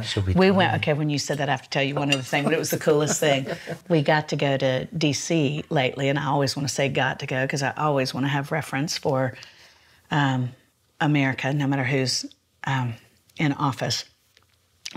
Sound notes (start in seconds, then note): 2.4 laughs